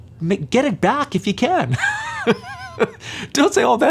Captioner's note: laughs